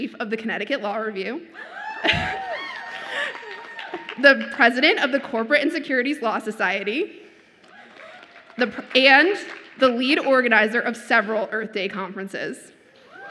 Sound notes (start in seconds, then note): 1.6 audience cheers; 1.6 laughs